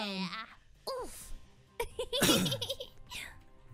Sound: laughs

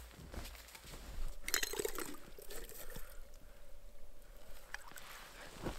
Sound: kettle rattling

